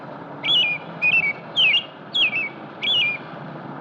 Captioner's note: chirping continues